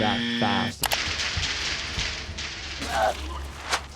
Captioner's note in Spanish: barras traqueteando